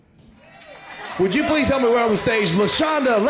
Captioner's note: applause fades in